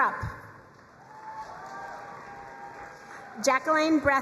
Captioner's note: crowd cheering and applauding